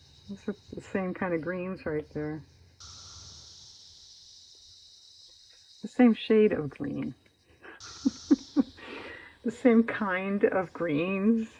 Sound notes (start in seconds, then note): 7.6 laughs